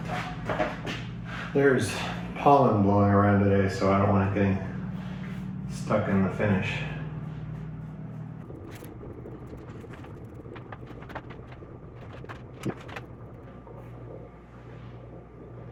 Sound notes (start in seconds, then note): none